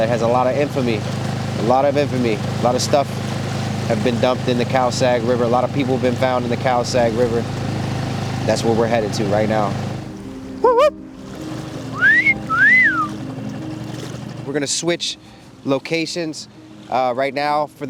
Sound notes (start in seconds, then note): 11.9 whistling